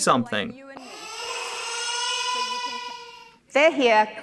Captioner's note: baby crying